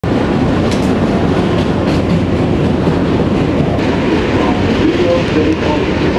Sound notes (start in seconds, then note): 0.0 city noise